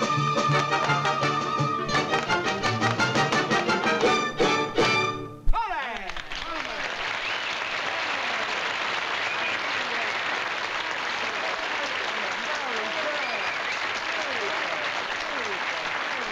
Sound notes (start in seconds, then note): 5.5 applause